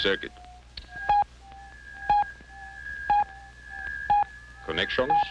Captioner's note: radar beeping